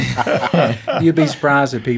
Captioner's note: laughing